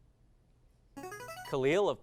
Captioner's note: device sound